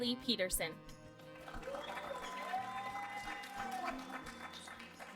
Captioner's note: applause